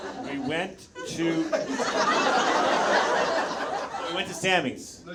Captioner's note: audience laughs